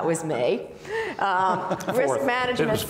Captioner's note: laughing